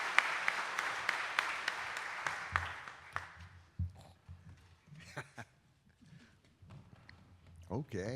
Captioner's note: audience applauding